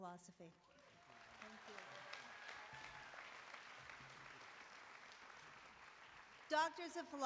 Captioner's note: applause